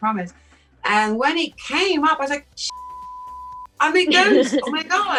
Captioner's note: beep; chuckles